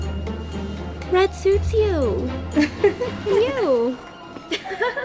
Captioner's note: laughs